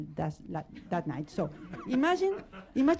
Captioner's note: laughter